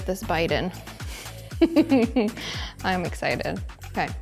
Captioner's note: host giggling